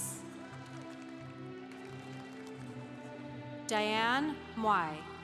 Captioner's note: congregation applauding